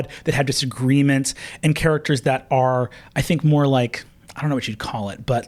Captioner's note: none